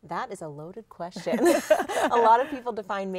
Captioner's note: both laughing